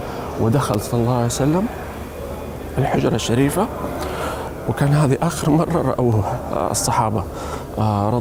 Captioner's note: choking with tears